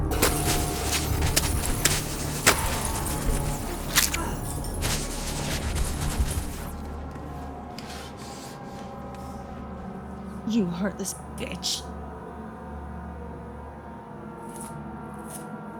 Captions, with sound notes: (knife thudding) (dramatic music) (smoke hissing) - You heartless bitch. (brooding music)